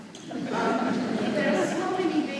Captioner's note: audience laughing